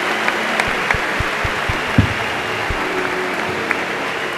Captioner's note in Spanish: Aplausos y gritos